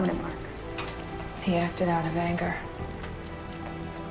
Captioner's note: voiceover